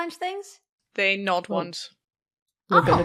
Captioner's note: Rik chuckles